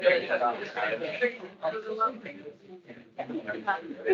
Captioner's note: attendees chattering